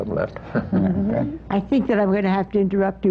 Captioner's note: laughter